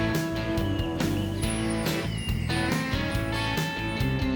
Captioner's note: wind chimes